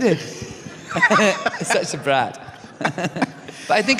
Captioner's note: laughter